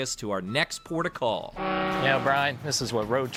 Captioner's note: boat horn blaring